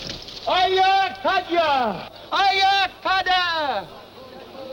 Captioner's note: shouting in foreign language